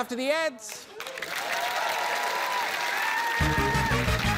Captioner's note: cheering, applause